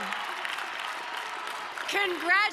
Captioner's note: audience clapping